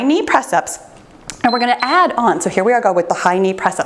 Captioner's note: timer beeps